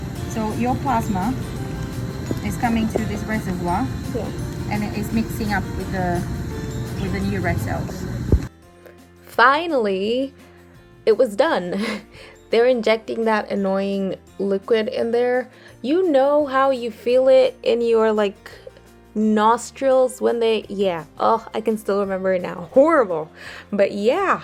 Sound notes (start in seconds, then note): 8.2 voice over